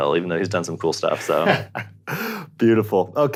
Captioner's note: laughs